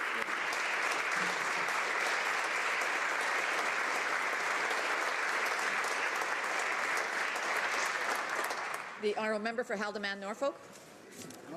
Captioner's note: applause